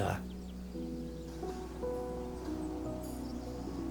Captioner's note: birds chirping